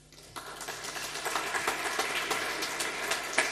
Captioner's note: applause